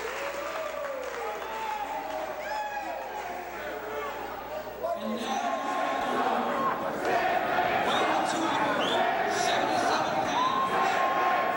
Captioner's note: crowd cheering